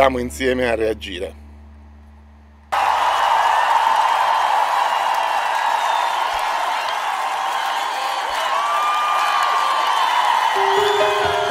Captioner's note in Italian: Applauso